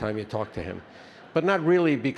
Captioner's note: attendees laughing